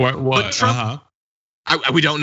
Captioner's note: laugh